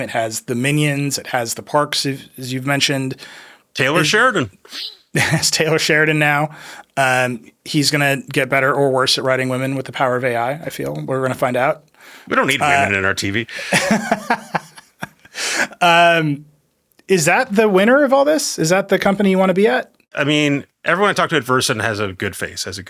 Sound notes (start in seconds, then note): 13.5 laughs